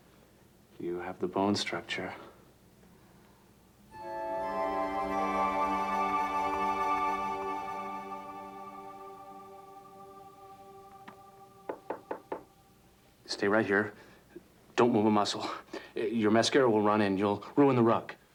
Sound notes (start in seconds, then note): 3.5 mystical music crescendo; 11.7 knock at door